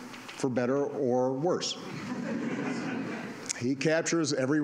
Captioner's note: laughter